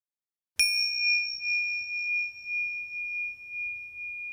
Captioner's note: bell rings